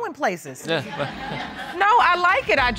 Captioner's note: audience laughs